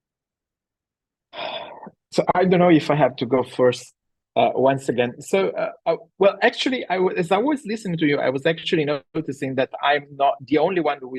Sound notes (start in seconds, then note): 1.3 sighs